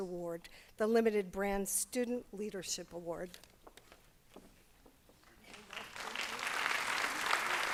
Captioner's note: applause